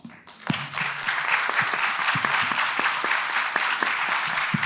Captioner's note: everyone applauds